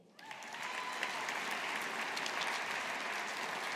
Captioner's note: audience applauding